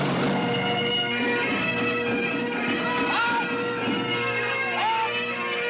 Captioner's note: bagpipes playing; shouting